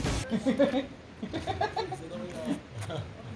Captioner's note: giggling